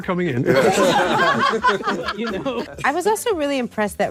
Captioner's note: panelists laughing